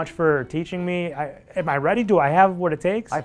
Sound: stammering

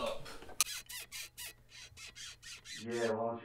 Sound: oil can creaking

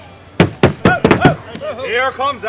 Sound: walking stick strikes the stage and performers shout

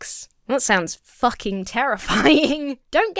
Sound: chuckles

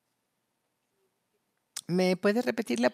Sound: a través de intérprete

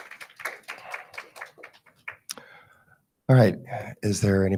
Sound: attendees clapping

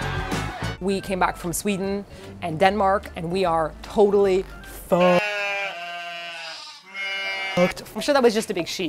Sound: sheep sound

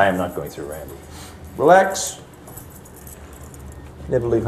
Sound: clicking of keys

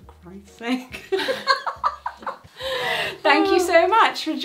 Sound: both laugh

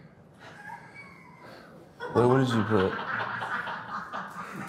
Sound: group laughs

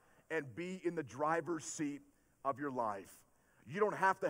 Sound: none

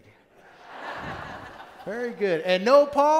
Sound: laughter

